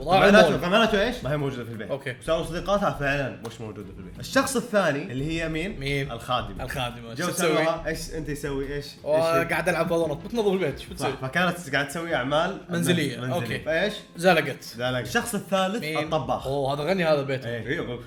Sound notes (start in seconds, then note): none